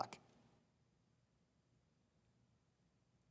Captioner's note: none